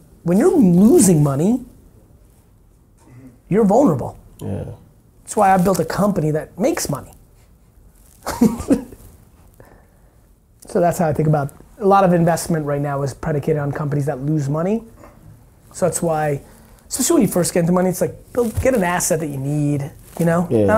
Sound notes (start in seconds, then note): 8.2 laughing